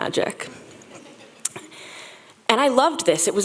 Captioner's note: audience chuckles